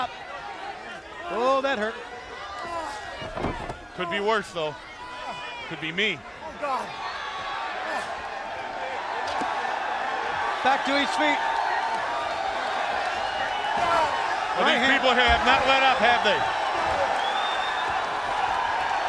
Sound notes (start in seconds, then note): 7.3 crowd chatter; 18.8 crowd cheering